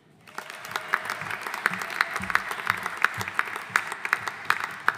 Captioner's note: audience applauding